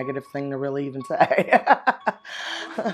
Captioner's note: laughs